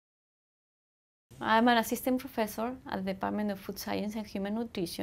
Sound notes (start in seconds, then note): 1.8 heavy accent